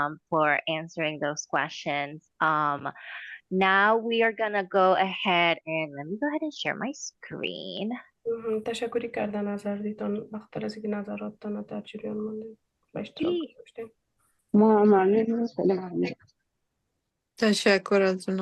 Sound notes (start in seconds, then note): 8.9 speaking in Dari; 14.8 speaking in Dari